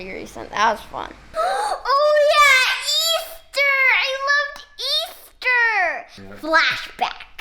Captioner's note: gasps loudly